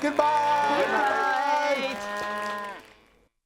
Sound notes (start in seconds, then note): 0.0 mooing and applauding; 1.8 mooing and applauding dies out